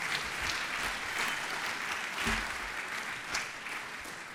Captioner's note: audience applauds